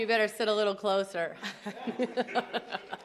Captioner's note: laughter